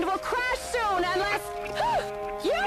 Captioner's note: gasps